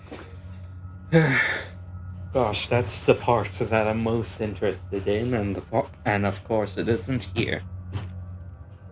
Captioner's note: sigh